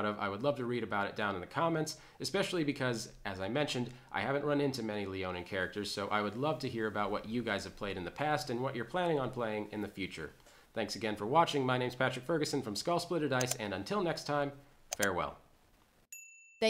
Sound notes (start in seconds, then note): 14.9 computer button clicking; 16.1 bell chiming